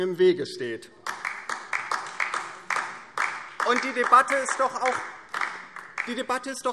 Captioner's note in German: Beifall DIE LINKE